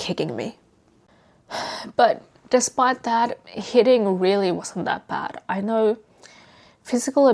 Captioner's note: sighs